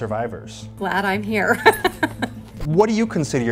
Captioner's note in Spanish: risas